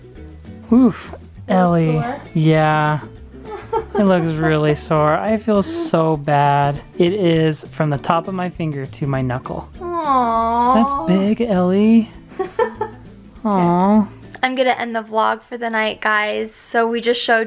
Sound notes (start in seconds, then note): 9.7 moaning; 12.4 laughing